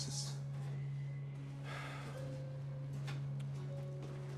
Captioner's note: Max sighs